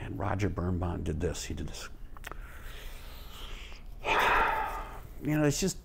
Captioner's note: exhales deeply